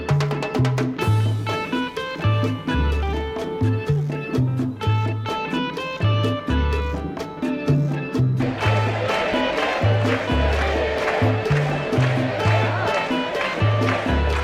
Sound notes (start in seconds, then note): 0.8 salsa music; 8.4 cheering crowd